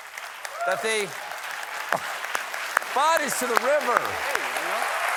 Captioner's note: applause